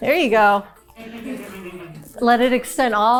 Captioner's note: crew member chuckling